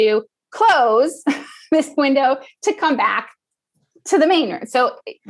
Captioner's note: laugh